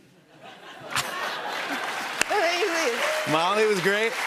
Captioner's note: cheers and applause